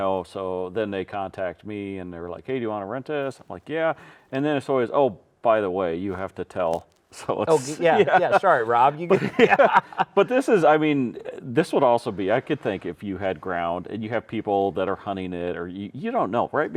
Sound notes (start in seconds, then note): 7.2 laughing